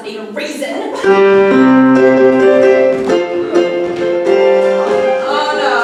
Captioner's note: 'Evil Bunny' trill